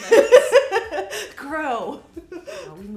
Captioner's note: laughing